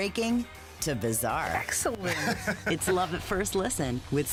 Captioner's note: he laughs